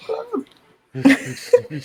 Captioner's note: laughter